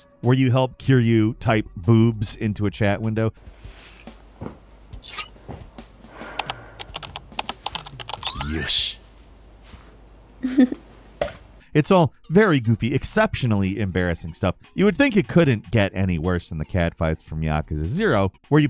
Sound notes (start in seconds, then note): 5.6 keyboard clacking; 7.7 computer bleeps; 10.4 girl giggles